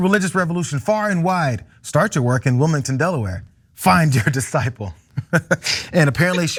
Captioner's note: laugh